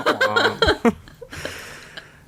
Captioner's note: laughs